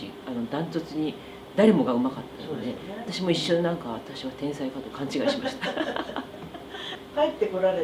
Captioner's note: laughs